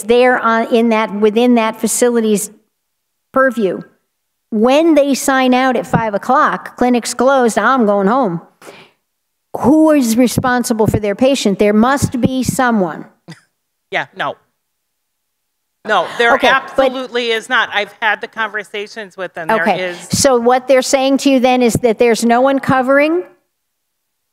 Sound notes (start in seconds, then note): 15.9 laughter